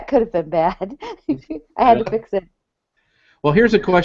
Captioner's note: laughs